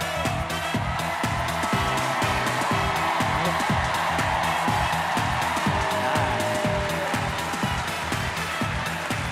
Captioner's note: cheers and applause